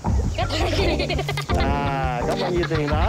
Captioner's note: laughter; man speaking native language